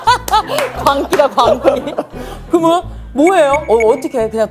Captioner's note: laughs